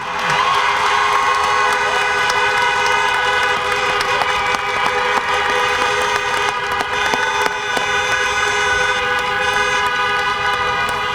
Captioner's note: applause, horns honking